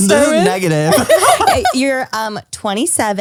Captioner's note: laughs